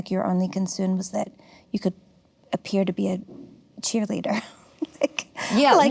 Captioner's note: laughs